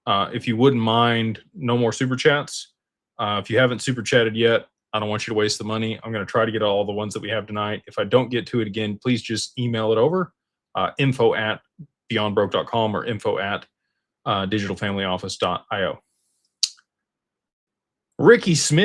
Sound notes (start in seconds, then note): none